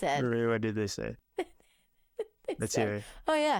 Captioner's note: laughing